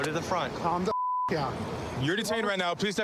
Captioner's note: beep